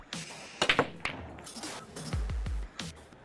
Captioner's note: clack... roll, roll…